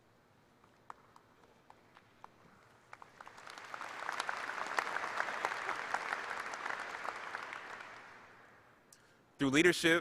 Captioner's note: applause